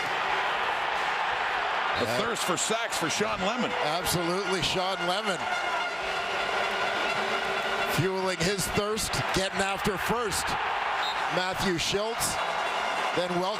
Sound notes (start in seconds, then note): 2.9 crowd Noise